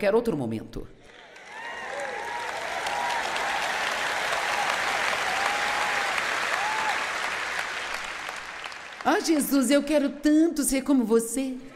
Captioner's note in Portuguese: audiência aplaude